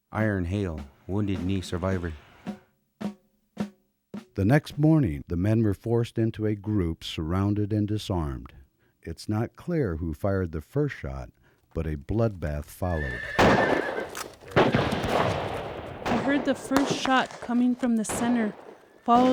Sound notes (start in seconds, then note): 12.9 horse whinnying; 13.2 gunshots blasting